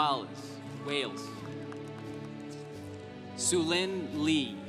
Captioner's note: congregation applauding